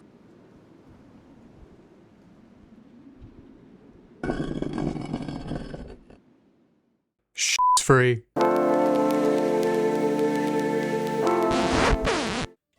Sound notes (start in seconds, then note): 4.2 stone scraping; 11.2 record scratching